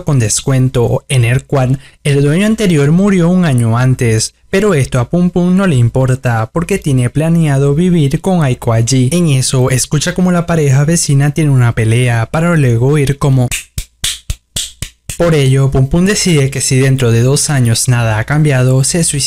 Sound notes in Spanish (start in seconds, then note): 13.5 sonido de coito salvaje